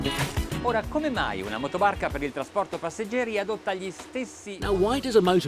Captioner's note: speaking foreign language